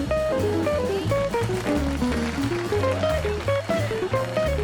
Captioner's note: crowd applauding